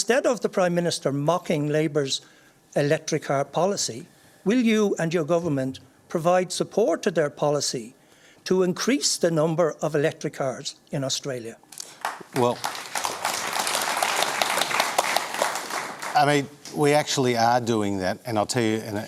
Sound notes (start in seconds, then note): 14.0 applause